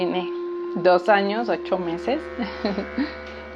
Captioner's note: chuckles